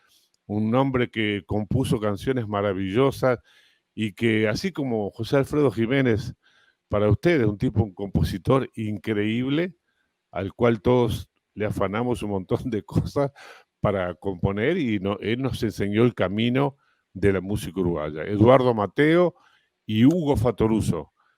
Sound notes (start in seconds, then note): 10.0 ironía